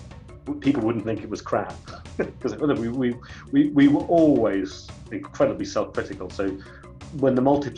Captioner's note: laughs